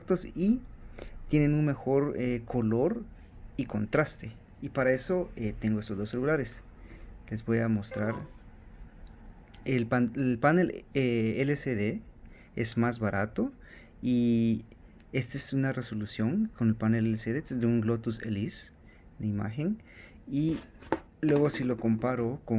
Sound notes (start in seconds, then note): 15.2 old phone